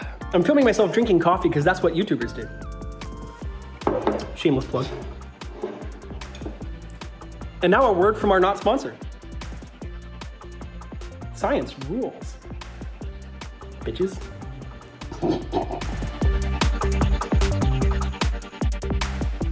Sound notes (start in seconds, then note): 15.1 snorts obnoxiously